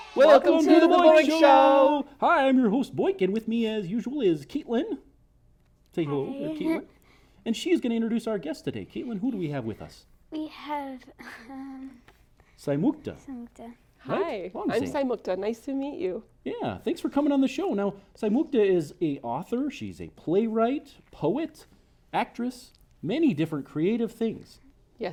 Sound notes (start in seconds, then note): 6.9 laughs